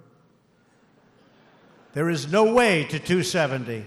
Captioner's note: laughter